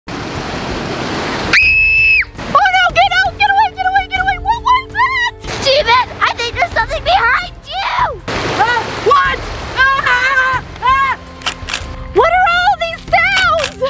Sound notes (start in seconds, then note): 1.5 screaming; 9.2 yelling; 11.4 shutter clicking